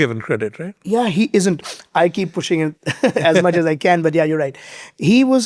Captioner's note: chuckles